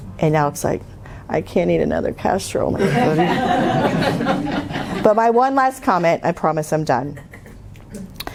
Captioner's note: laughter